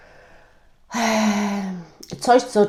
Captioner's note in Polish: wciągnięcie powietrza; westchnienie